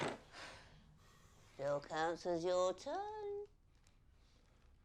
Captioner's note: jenga pieces crash down